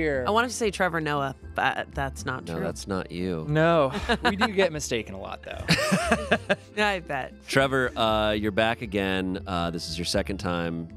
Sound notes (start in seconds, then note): 5.6 laughs